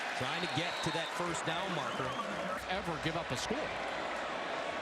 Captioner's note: laughs